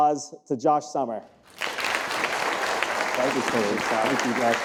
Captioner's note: audience applauding